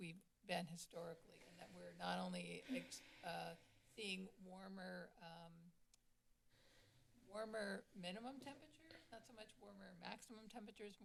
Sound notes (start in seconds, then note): 2.6 sigh